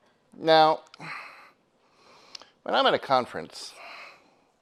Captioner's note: sighs